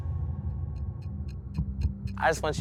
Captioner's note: intense suspenseful music; clock ticking